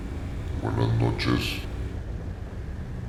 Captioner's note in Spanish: Con voz grave